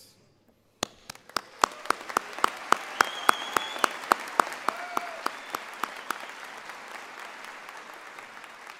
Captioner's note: applause